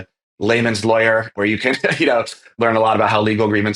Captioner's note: laughs